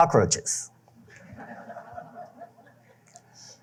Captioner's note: laughter